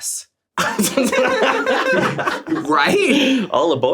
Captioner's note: everyone laughs